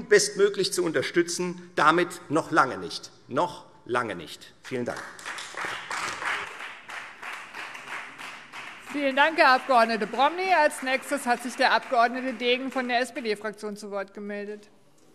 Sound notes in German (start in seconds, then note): 4.7 Beifall Freie Demokraten und vereinzelt SPD